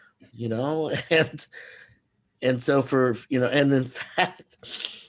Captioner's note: laughs